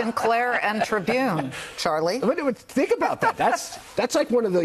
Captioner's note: laughter